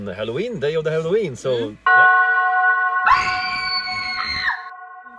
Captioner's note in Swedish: skrik